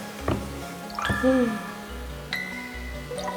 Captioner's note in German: Seufzen